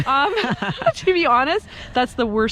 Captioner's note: laughs